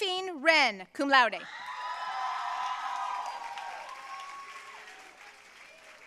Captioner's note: audience cheering and applauding